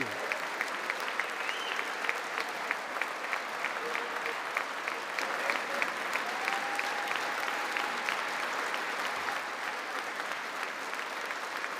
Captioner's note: applause